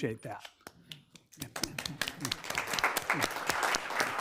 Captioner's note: members applauding